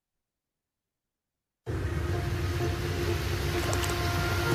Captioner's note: video audio plays